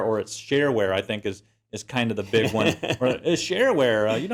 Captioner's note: laugh